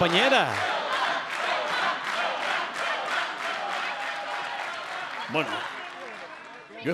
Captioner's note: applause